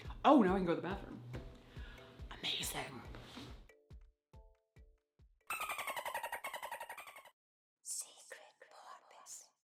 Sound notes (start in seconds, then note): 3.8 upbeat music; 5.5 porpoise snickering